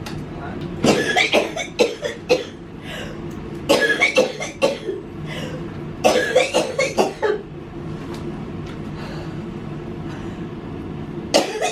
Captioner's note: coughing